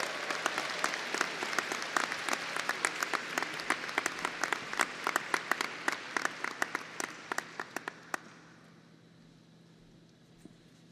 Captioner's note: applause